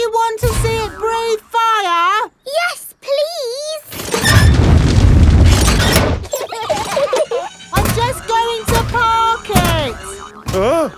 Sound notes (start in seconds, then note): 6.2 children giggling